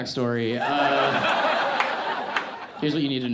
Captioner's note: audience laughs